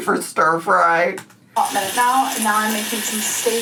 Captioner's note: oil sizzling